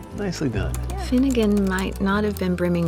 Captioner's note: typing